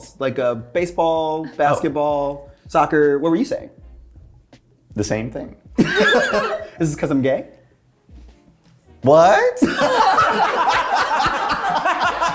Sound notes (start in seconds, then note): 5.8 cast laughing; 9.6 cast laughing